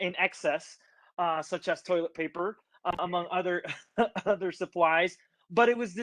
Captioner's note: chuckles